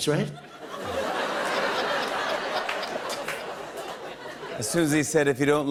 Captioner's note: laughter